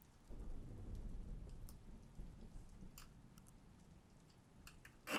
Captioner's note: thunder rumbles gently